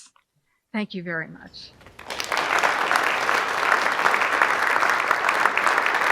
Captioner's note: audience applauding